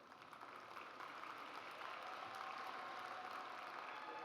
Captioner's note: audience applauds